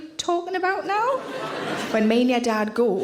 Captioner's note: audience laughing